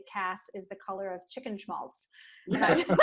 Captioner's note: laughter